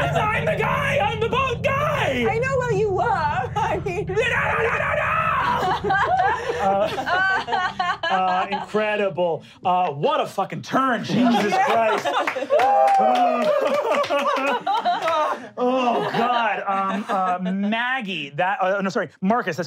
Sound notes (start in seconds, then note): 4.6 frightened gibberish; 5.2 laughing; 11.3 clapping and cheering